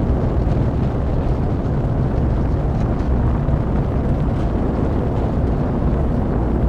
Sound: wind noise

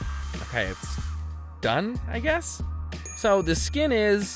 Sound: bell dings

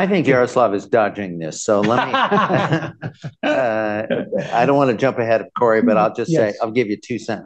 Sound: laughter

